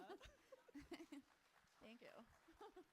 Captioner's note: both laughing; audience clapping